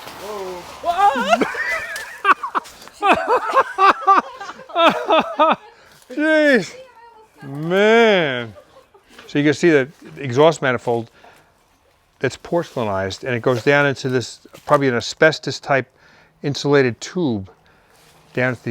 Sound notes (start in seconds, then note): 0.3 squeals and laughs; 4.8 crew laughing